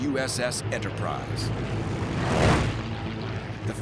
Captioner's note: planes whirring